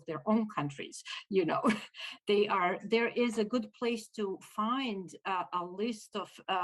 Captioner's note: laughter